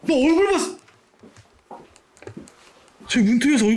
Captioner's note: the sound of stepping back